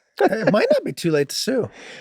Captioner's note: Rob laughing amusingly